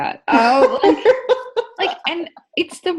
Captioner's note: laughing